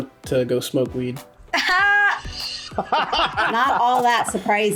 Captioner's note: laughs